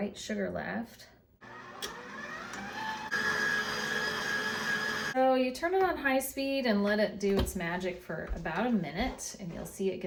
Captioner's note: KitchenAid working